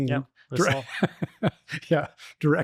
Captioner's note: laughing